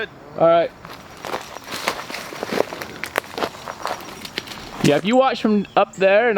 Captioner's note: crunching brush